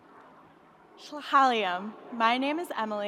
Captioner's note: speaking in foreign language